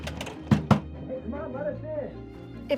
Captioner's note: knocking